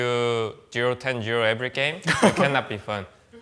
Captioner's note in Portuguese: risos